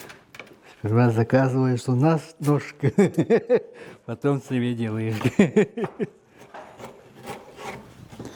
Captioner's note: laughter